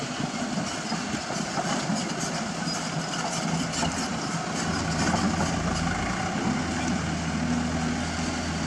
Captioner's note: engine Rev